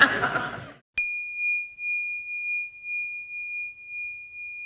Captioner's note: audience laughing; bell dinging